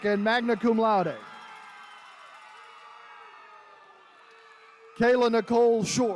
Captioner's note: attendees cheering